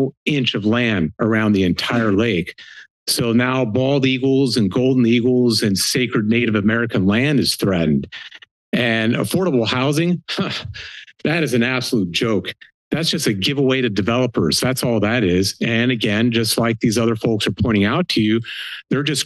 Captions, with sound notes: inch of land around the entire lake, so now bald eagles and golden eagles and sacred native American land is threatened. And, affordable housing? [snickers] That's an absolute joke. That's just a give away to developers, that's all that is and and just like these other folks are pointing out to you,